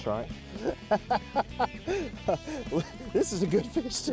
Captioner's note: laughs